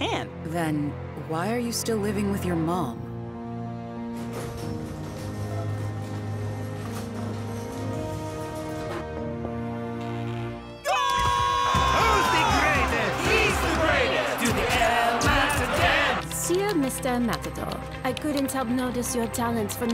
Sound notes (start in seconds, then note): 4.1 garage door rattles; 10.7 crowd cheering; 11.8 crowd